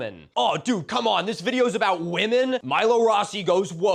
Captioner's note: dudebro voice